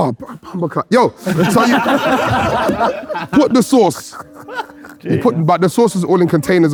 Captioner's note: group laughing